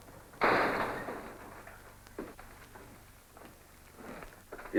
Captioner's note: door slams